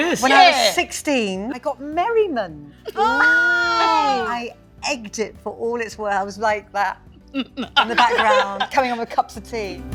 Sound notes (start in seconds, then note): 2.9 laughs; 7.0 mimics Merriman